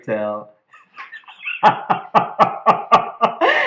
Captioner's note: laughter